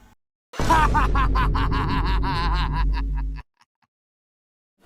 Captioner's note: laughs in German